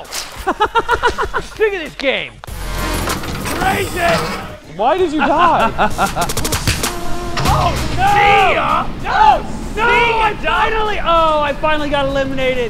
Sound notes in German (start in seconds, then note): 0.3 lacht; 4.8 lacht